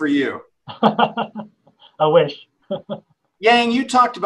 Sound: laughs

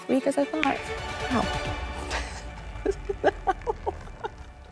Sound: laughs

